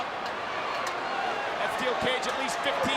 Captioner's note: audience cheering